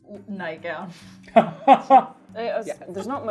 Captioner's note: laughing